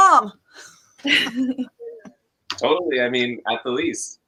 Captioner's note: both laughs